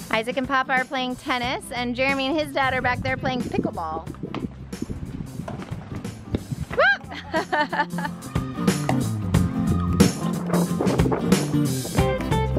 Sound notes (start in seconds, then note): 6.7 laughing; 9.1 upbeat music